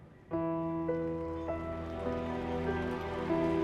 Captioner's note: cheering and applauding